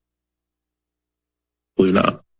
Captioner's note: silence